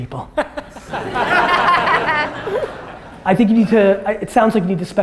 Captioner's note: audience laughter